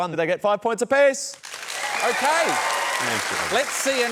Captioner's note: applause